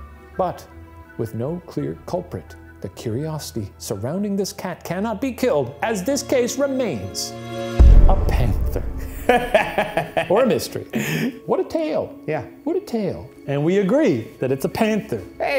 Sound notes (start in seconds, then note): 7.4 dramatic music; 9.1 chuckling